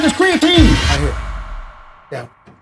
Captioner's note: suspenseful whooshing